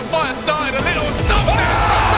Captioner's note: gun firing